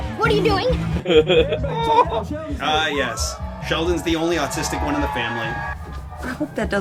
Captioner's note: chuckles